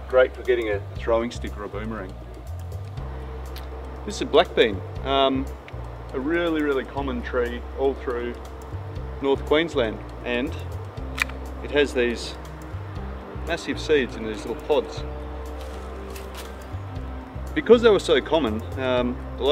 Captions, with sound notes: great for getting a throwing stick or a boomerang. (upbeat drumbeats) This is Black Bean, a really, really common tree, all through North Queensland. And it has these (bean pod cracks) massive seeds in these little pods. (upbeat electronic music) Because they were so common,